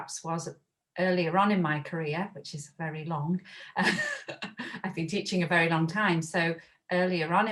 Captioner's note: laughs